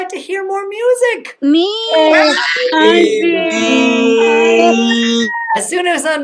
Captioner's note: cheering